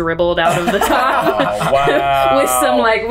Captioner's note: laughs